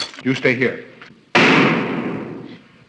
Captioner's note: gunshot; crash